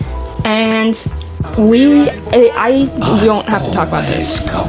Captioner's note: tiktok playing